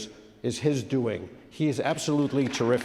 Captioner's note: audience claps